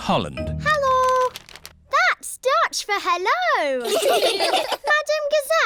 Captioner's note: laughter